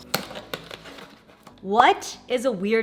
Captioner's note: packaging rustles